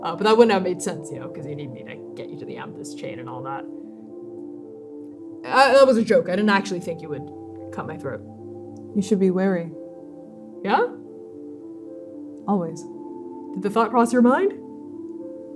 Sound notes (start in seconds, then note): 5.5 stammering